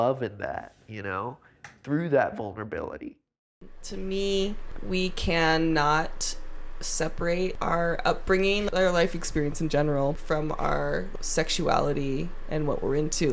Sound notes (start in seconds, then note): 3.5 recorded voice